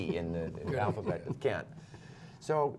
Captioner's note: laughter